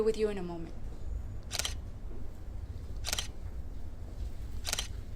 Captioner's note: shutter snaps